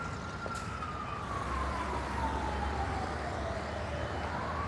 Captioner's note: sirens wailing